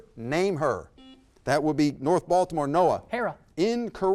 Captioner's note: buzzer beeps